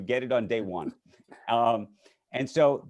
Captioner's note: many laughing